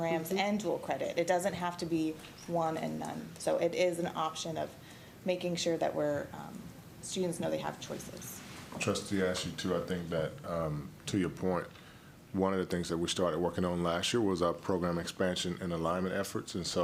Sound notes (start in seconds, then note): none